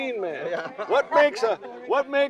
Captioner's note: chuckling